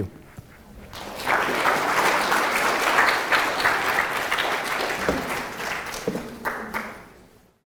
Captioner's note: applause